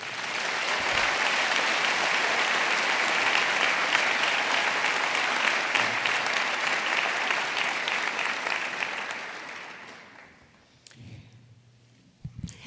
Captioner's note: applause